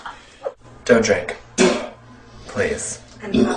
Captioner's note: spits